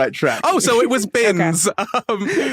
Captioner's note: both laugh